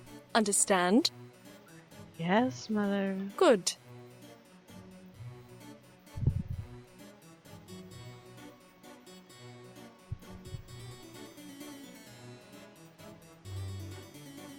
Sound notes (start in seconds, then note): none